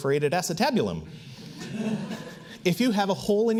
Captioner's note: audience laughs